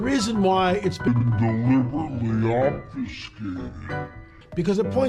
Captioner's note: deepened voice